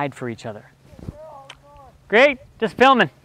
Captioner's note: mom shouting